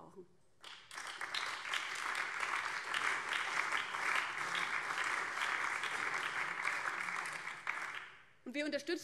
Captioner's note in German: Beifall BÜNDNIS 90/DIE GRÜNEN, CDU, SPD und Freie Demokraten